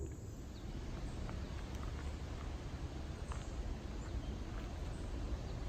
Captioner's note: forest animals excitedly chatter